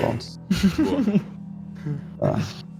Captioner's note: giggles